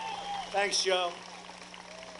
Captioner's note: applause